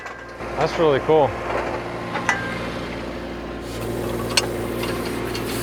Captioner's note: machine running